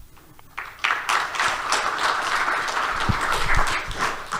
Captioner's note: audience applauding